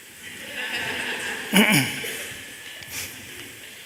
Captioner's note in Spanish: Risas